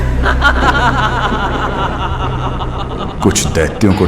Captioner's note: laugh